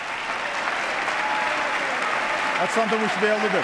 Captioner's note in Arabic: تصفيق